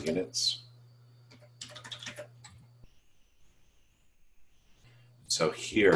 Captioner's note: typing Sounds